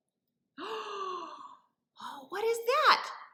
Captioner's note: gasps